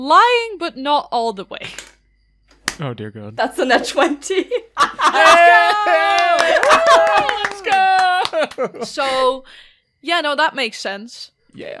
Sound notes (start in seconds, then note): 4.9 everyone cheers!; 5.1 claps